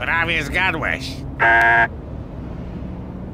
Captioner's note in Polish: domofon